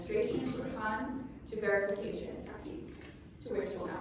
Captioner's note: non-english speech